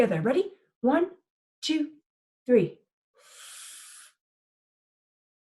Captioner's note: inhales